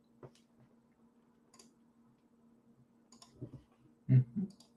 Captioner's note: keyboard clicks